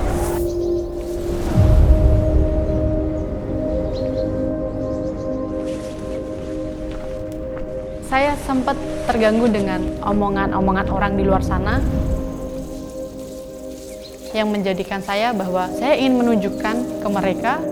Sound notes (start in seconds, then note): 2.8 birds singing; 5.5 slow and intense music continues; 12.3 nature sounds